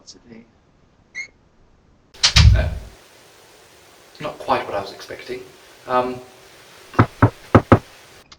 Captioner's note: knocks